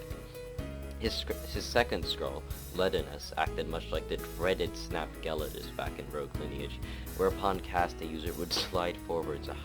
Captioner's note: snot sound